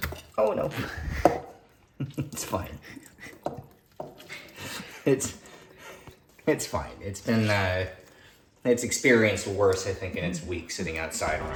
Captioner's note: laughing